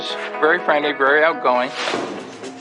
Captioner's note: air whooshing